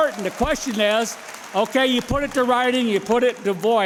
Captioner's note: applause